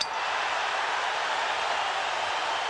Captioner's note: cheering